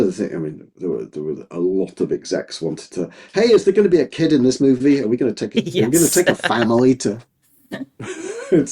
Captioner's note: laughing